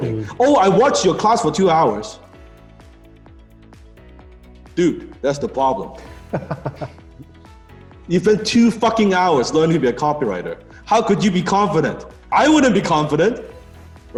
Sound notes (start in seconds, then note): 6.2 laughing